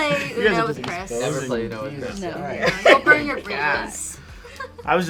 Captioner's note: overlapping chattering